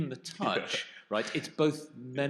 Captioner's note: chuckles